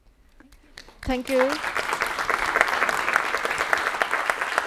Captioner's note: applause